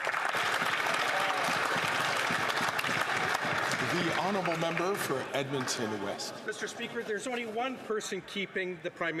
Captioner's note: some Applause